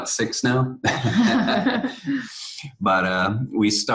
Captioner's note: both laughing